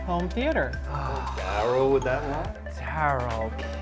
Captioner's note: groans